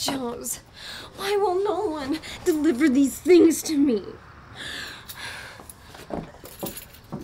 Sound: sighs

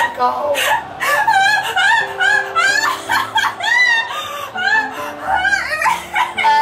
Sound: the sound of losing her shit

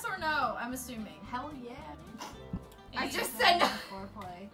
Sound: snorts

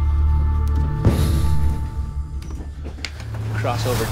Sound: van door bangs

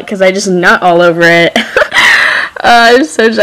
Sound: laughs

